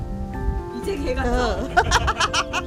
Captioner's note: laughs